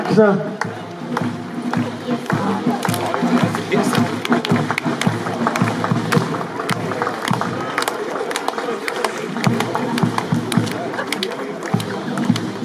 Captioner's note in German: Applaus